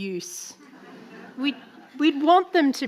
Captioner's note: audience laughing